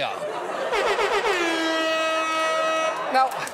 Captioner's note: air horn blares